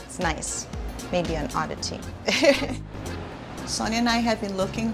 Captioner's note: laughs